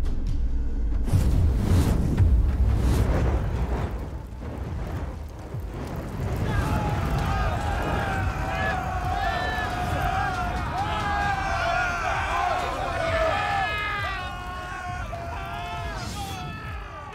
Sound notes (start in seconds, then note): 8.8 screaming